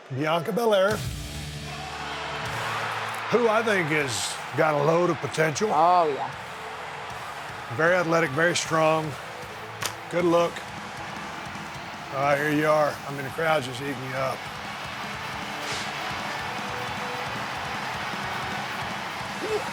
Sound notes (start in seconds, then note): 11.2 audience cheering; 14.7 audience cheering; 15.7 rock music